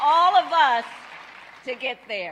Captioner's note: applause